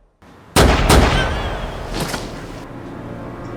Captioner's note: body thudding; gun firing; tense music; body thudding